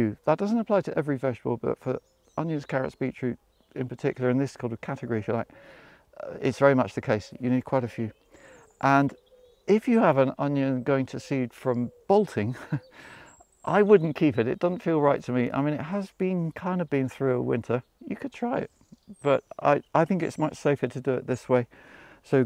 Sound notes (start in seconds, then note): 12.3 chuckles